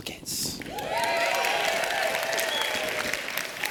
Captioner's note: applause